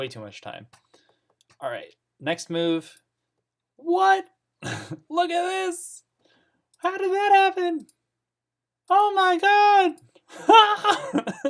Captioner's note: laughs